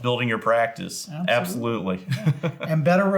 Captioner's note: chuckles